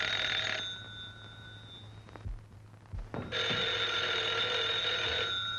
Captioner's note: phone rings